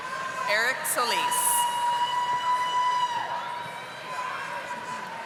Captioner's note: audience applauding